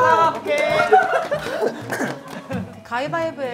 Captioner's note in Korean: 쿨럭